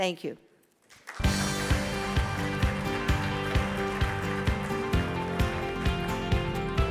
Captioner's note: audience applauds; bright music